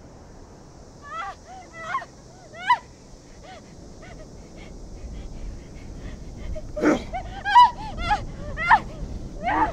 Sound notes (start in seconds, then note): 1.0 Morgan screaming